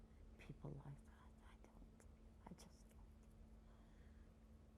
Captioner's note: whispering